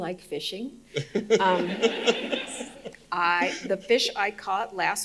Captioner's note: audience laughing